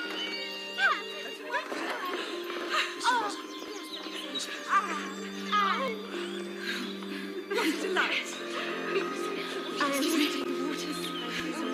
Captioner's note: commotion